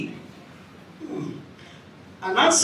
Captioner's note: sighs